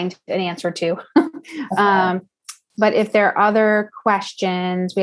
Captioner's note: laugh